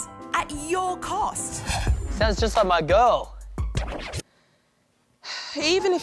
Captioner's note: sighs